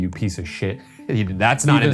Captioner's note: chuckling